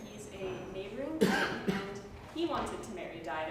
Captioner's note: cough from back